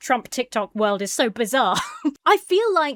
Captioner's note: chuckles